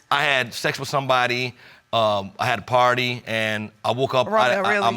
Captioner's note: stutters